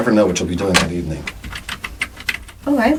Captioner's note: typing